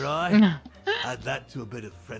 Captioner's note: laugh